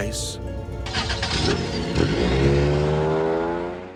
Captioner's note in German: Auto startet